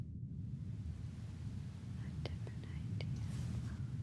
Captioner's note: whispering